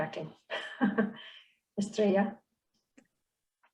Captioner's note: chuckles